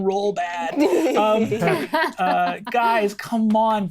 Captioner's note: group laughing